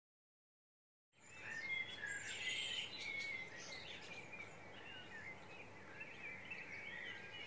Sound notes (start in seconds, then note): 1.2 birds chirping